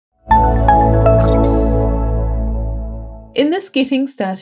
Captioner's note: logo chiming